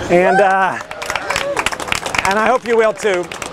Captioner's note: applause